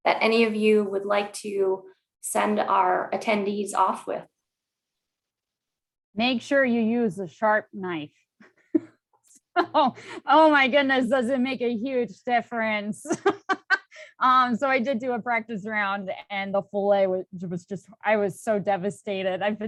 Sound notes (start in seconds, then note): 8.7 all chuckles; 13.0 laughs